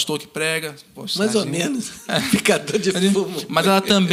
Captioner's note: laughs